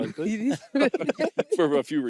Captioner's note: laughter